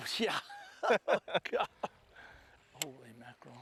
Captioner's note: laughter